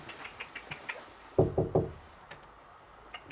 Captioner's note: knocking